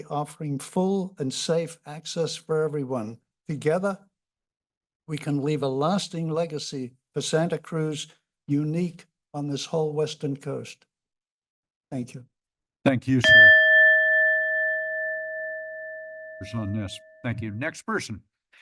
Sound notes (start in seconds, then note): 13.2 bell rings; 18.3 pause